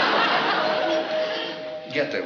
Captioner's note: doorbell chimes